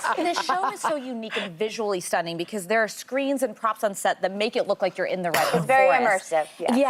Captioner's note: laughter